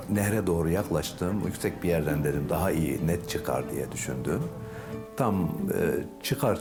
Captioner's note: continues speaking in foreign language